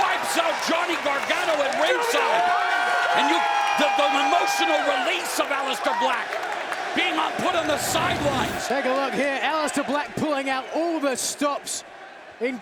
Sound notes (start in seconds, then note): 2.8 crowd cheering